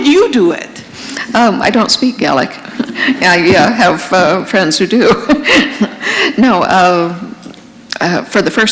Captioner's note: chuckle